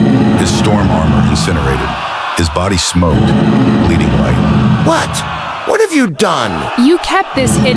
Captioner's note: groaning